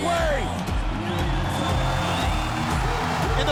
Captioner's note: upbeat music; fireworks sizzling